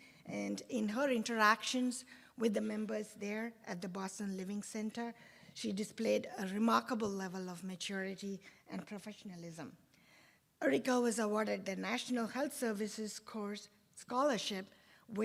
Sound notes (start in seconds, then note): none